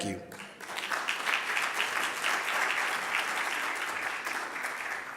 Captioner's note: audience applauding